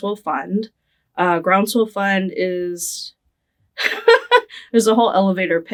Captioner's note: laughing